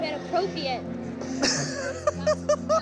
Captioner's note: laughs